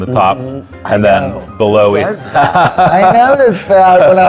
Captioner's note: laughs